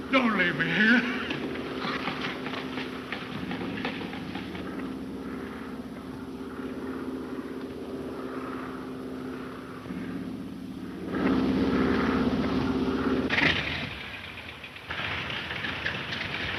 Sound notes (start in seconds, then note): 6.2 engine droning; 13.6 engine puttering